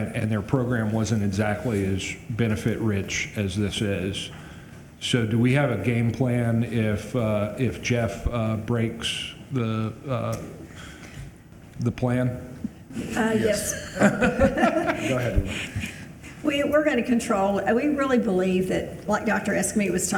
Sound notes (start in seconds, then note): 13.0 all laughing